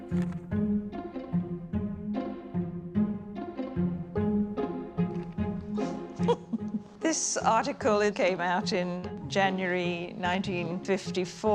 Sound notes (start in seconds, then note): 0.1 kooky music; 5.8 chuckling